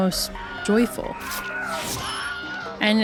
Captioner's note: Wilhelm Scream plays repeatedly